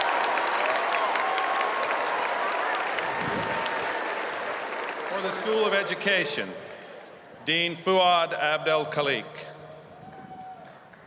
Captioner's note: cheers and applause